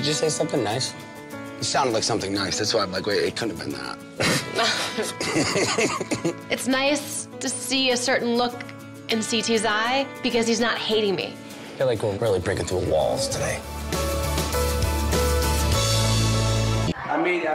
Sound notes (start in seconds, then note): 4.2 laughs; 14.3 upbeat music